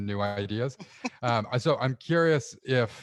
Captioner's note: chuckling